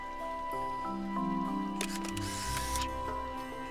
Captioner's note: camera whirring